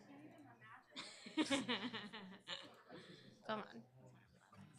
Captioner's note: chuckles